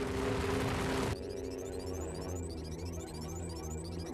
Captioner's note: electronic humming